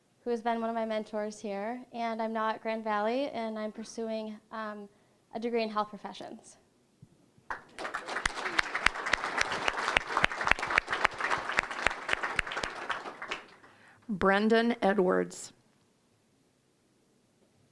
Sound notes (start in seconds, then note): 7.4 applause